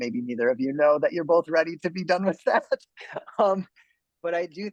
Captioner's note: man laughs